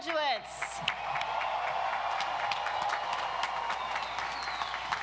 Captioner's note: audience cheers